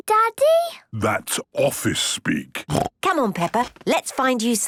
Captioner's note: snorting